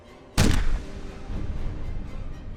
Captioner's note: eerie music; gun fires